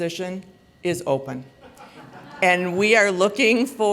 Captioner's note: laughter